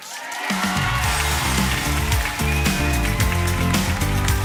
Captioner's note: applause